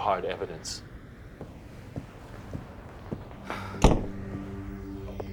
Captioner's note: footsteps; somber synthesizer and string music